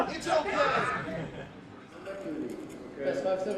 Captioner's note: crowd shouting